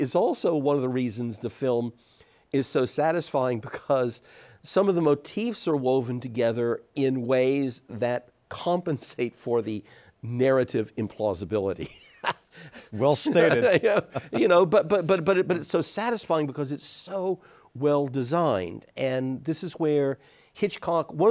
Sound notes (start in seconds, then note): 11.8 chuckles; 12.8 laughs